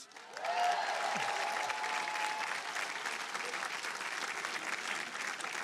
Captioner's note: audience applauding and cheering